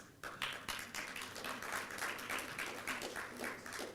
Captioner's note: applause